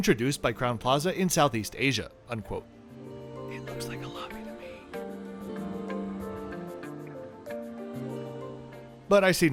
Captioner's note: whispers